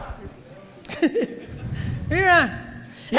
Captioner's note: audience chuckles